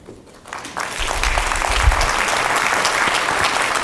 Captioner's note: crowd applauds